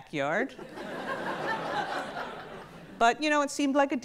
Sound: audience laughs

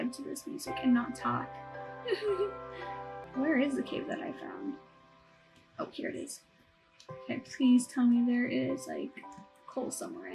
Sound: soft weeping

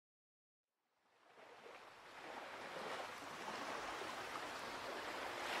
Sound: ocean breeze

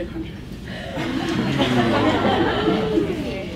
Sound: laughs

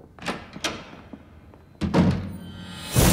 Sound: thunderclap

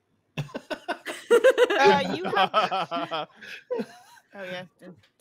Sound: panelist chuckles

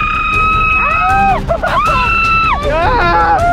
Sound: screams

